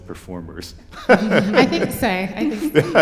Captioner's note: laughter